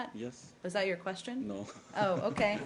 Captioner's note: laughter